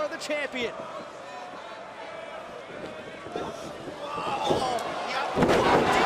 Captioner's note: crowd chatter